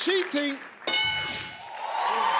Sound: clunking; audience cheering

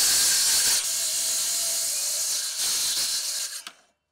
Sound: saw whirring

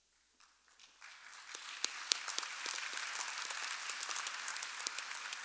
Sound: audience applauding

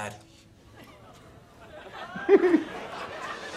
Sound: audience laughter; laughing

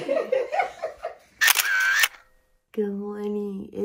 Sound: laughs; camera clicks

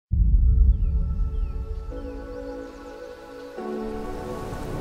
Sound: soft music; birds chirping; leaves rustling

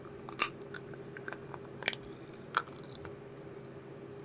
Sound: popping candies breaking sound; crunch

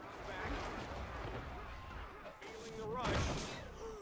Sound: yelling and cheering

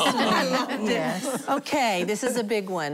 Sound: laughing

